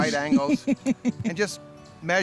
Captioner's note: laughs